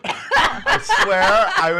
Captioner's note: coughing; laughing